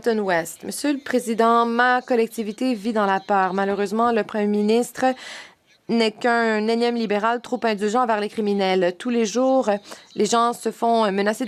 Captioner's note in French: voix de l'interprète